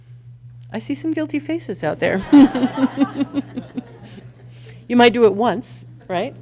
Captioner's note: laughs